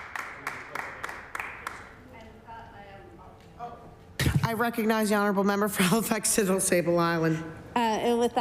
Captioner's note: applause